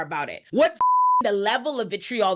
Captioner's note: beep